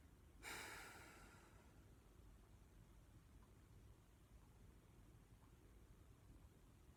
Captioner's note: she sighs